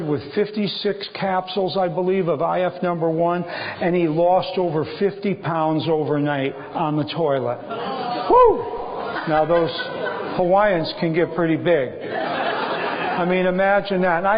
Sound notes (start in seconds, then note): 12.0 laughter